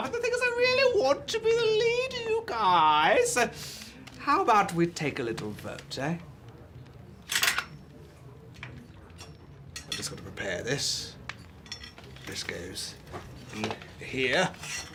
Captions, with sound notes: But the thing is, I really want to be the leader, you guys. How about we take a little vote, eh? (metallic clinking) Just gotta prepare this. This goes here.